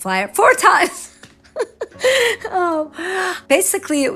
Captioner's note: laughing